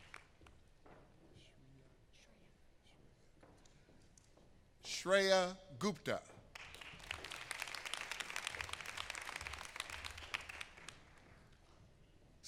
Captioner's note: applause